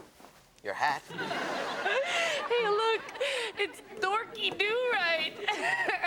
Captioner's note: laughing